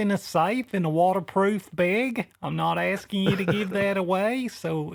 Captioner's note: laughs